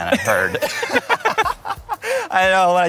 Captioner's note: laughs